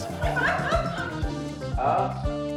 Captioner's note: laughs